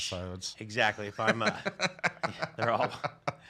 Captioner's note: laughs